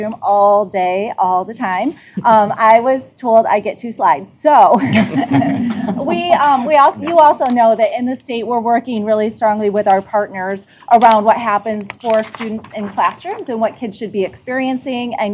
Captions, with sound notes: ALL DAY ALL THE TIME, I WAS TOLD I'D GET TWO SLIDES, SO-- [ LAUGHTER ] WE... YOU ALSO KNOW THAT IN THIS STATE WE'RE WORKING REALLY STRONGLY WITH OUR PARTNERS AROUND WHAT HAPPENS FOR STUDENTS IN CLASSROOMS AND WHAT KIDS SHOULD BE EXPERIENCING.